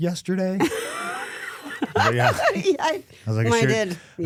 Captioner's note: Stephanie laughing